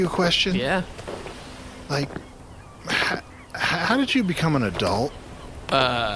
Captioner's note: stammering